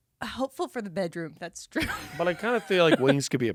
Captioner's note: laughs